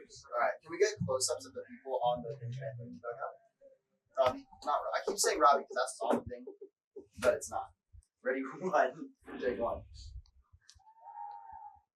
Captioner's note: background chatter